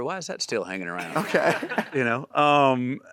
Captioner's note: audience laughing